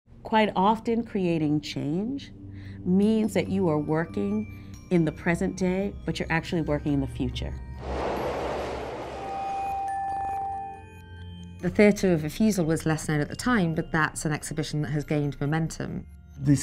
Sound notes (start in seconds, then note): 7.8 train whooshing; 10.6 gentle music